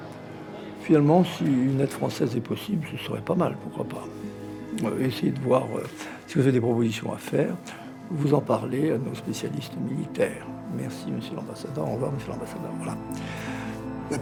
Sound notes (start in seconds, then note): 0.1 speaking in French